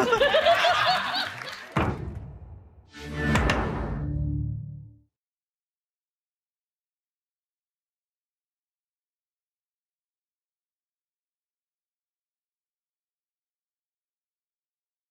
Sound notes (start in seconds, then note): 0.0 everyone laughing; 0.0 audience clapping; 1.8 graphics thudding; 2.9 electronic music; 4.0 graphics thudding